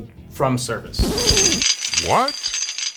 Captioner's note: chain rattling